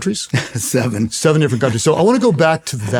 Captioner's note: laughs